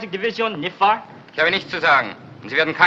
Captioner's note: speaking in german